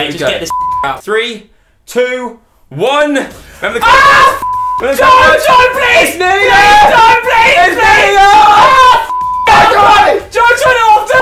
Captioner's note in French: cri